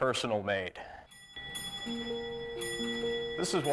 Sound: clock chiming

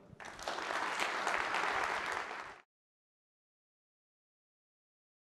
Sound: audience applauding

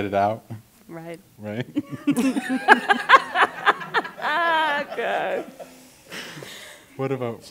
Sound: laughter

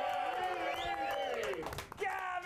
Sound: audience cheering

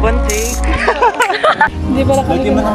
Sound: laughs

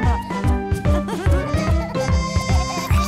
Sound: laughter

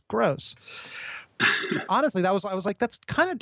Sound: laughs

